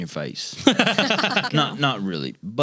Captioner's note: laughing